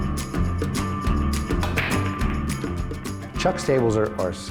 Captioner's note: clanking